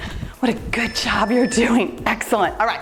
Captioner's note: timer beeps